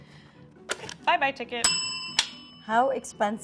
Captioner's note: bell ringing